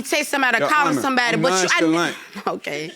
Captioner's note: scoffs